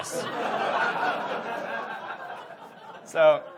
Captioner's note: audience laughs